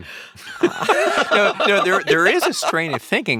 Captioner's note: laughing